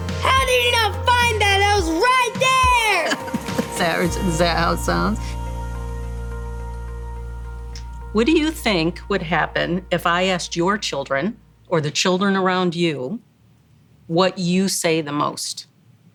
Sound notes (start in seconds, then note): 2.5 laughs